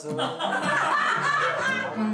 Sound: laughter

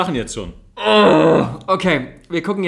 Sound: moans

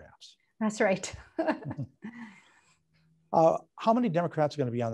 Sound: laughing

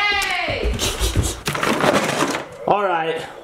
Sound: laughing

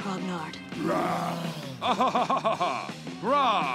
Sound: laughing

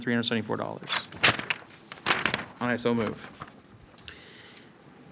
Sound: paper rustles

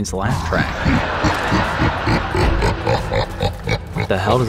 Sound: creepy laugh and studio audience laugh track play

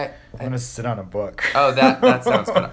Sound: laughs

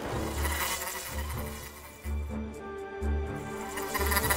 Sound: buzzing

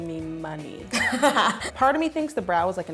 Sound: laughing

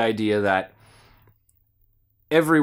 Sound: inhales to gather thoughts

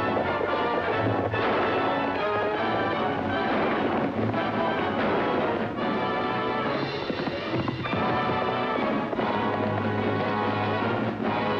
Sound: gun shots

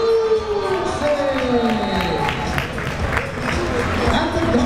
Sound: crowd members cheering

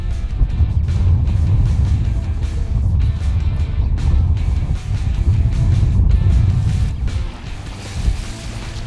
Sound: wind blowing; water splashing

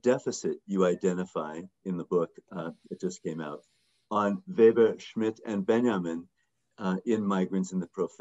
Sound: speaking german

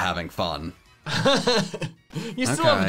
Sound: laughing

